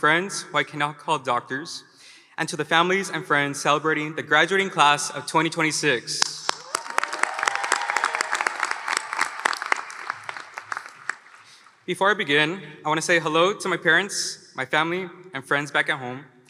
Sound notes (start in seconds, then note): 6.4 applause